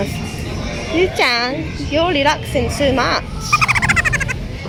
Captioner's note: laughs